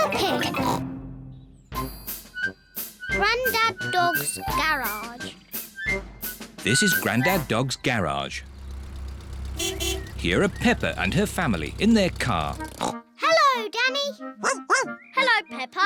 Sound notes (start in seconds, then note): 6.8 horn beeps; 12.6 snorts; 14.4 barks